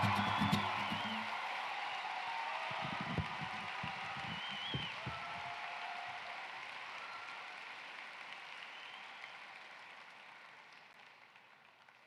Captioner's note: cheering and applause